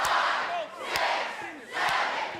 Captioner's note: fans chanting